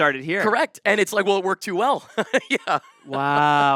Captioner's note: laughs